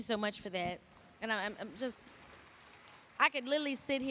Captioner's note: applause